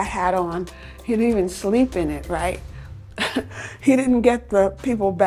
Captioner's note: chuckles